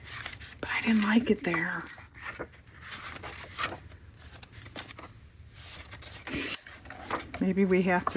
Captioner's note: whispers